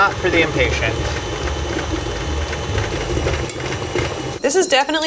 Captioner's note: motor humming